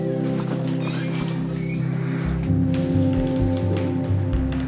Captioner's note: door creaking; gentle music continues